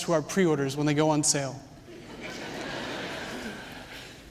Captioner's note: laughter